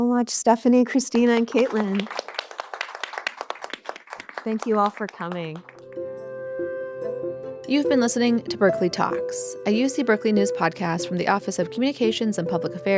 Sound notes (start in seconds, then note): 5.5 applause, fades out